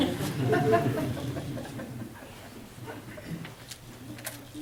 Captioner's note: audience laughs